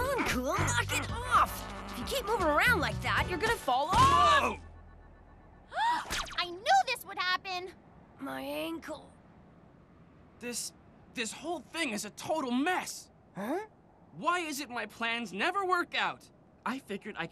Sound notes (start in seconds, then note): 4.0 screaming; 5.9 gasping